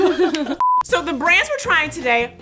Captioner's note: hosts laugh; beep